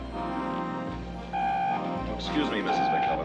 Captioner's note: Walkie-Talkie vızıltı